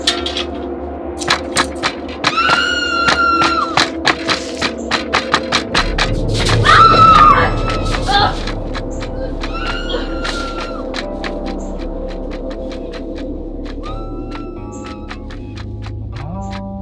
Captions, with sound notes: Lauren? Kristine? Are you OK? [screaming]